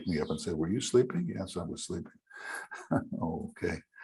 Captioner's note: laughing